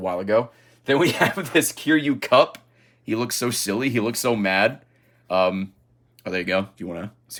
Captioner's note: laughs